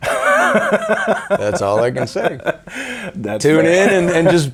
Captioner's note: laughing